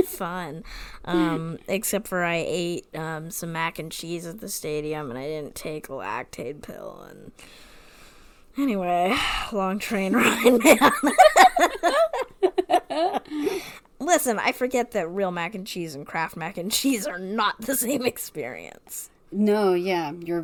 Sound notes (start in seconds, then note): 10.1 laughs